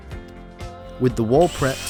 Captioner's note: drill whirring